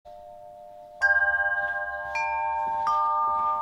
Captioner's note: chiming